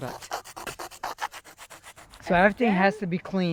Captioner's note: tool scraping